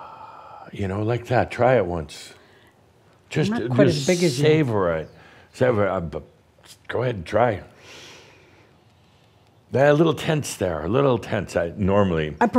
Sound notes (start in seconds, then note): 7.8 takes a short stiff breath